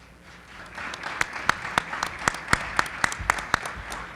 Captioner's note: group applauds